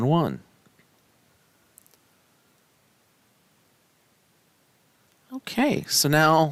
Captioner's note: no Speech Detected